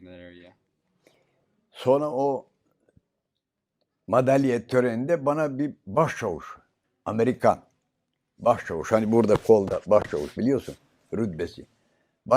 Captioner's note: foreign language